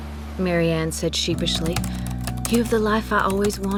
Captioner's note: typing